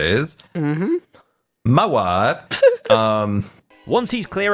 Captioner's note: laughs